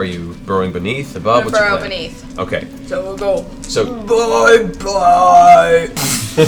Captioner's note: deep voice